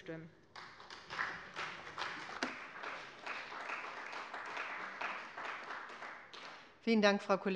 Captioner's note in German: Beifall bei der CDU und dem BÜNDNIS 90/DIE GRÜNEN